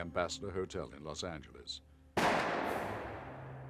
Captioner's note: rifle fires